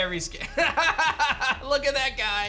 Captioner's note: laughs